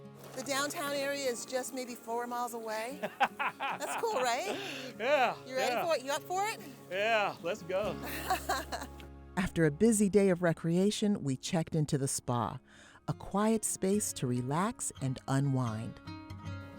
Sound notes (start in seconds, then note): 3.0 laughs; 8.4 laughs